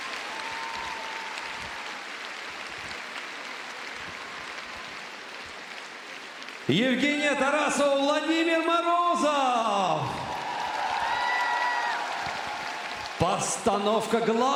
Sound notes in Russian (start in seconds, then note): 7.4 аплодисменты; 9.4 аплодисменты; 10.5 ликование